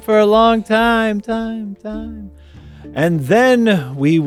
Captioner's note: echoing